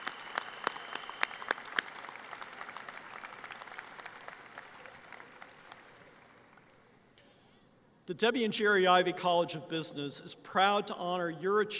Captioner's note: applause